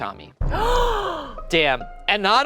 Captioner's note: gasping